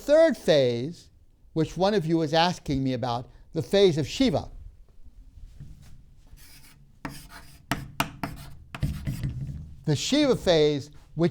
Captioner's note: marker writing on board